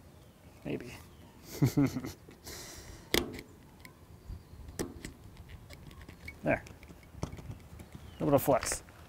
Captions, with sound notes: Maybe. (laughs) (snapping) There, a little flex.